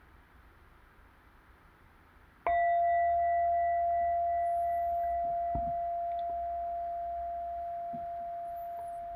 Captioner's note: bell